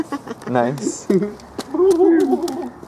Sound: laughing

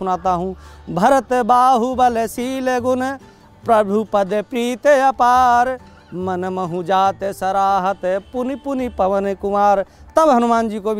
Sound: reciting

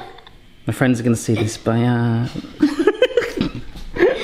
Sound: laughs

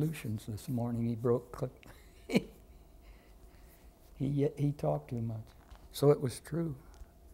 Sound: laughter

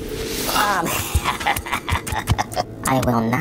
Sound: McKraken laughs

